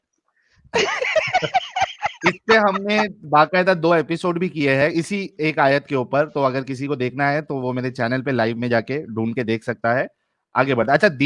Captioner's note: laughter